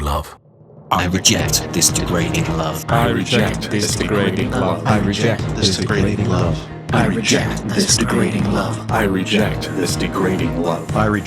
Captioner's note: a succession of voices affirming: I reject this degrading ‘love’